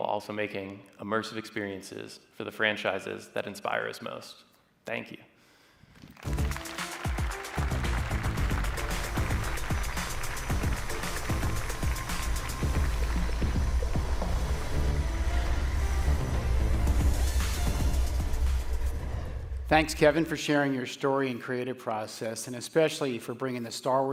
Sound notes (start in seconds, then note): 6.0 applause